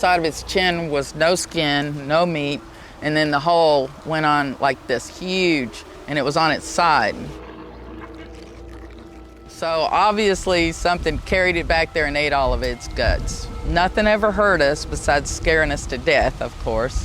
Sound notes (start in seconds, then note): 6.7 animal snarling; 6.7 haunting music